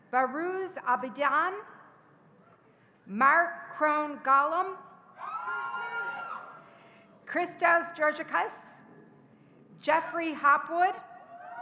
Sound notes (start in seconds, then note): 5.2 audience cheering